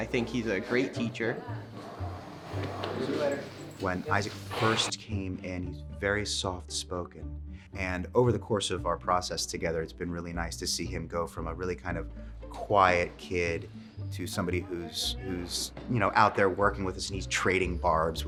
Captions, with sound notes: And I think he's a great teacher. [Background Speech] When Isaac first came in, he's very soft-spoken. And over the course of our process together, it's been really nice to see him go from a really kind of quiet kid to somebody who's out there working with us and he's trading barbs